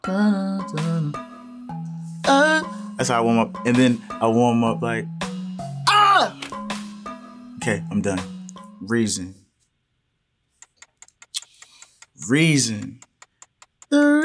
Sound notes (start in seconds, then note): 2.4 vocalizing; 5.8 screams; 10.6 timer clicking